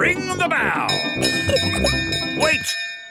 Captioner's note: bell chimes